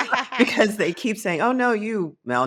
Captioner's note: laughing